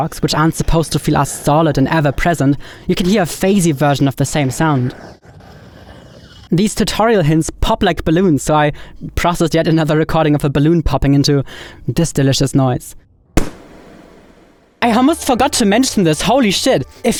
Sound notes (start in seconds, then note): 4.3 stone scratching; 13.4 balloon popping